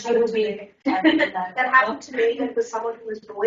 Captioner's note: laughs